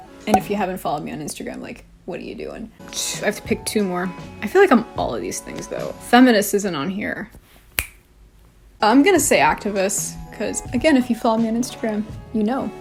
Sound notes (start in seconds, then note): 7.7 snaps fingers